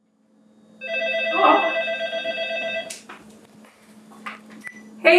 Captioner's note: phone rings